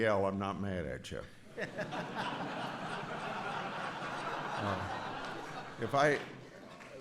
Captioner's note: laughter